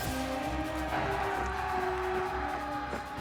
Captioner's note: crowd cheering